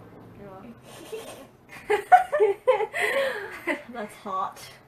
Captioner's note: laughs